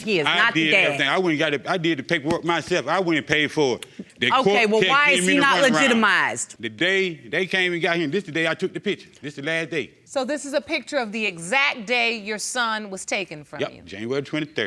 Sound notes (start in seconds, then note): none